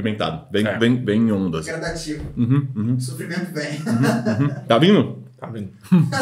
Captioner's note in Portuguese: risos